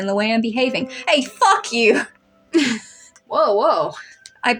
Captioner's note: laugh; chuckle